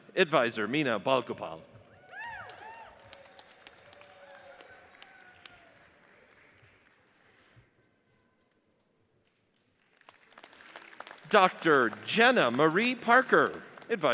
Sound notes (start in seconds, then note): 2.0 audience cheers and applauds; 9.8 audience applauds